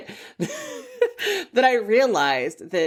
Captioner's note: laughs